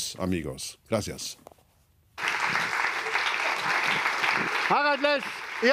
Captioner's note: applause